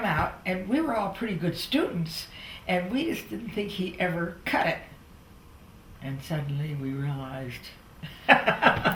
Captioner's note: laughter